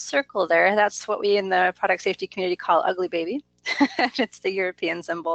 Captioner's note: laughs